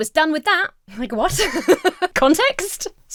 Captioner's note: Emma laughs